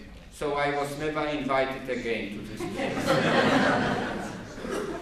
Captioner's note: laughter